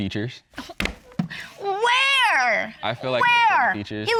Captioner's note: scoffs